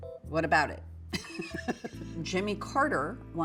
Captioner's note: laughs